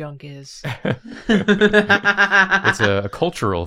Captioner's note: laughs